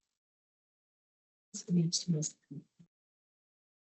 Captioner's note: distorted audio